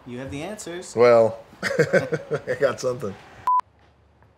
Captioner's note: chuckles